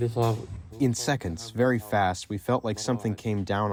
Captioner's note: through translator